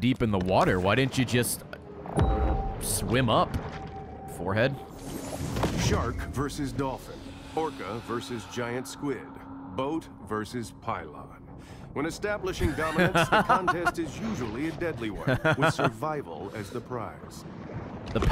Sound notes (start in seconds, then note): 12.6 laughs